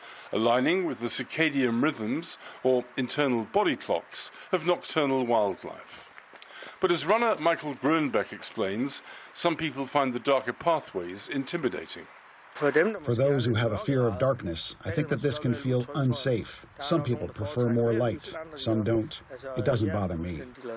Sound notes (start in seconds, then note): 13.1 through translator